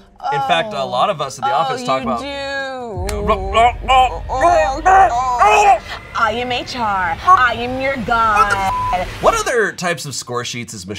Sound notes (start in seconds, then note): 3.3 man choking; 8.3 beep